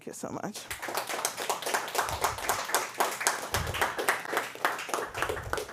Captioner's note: applause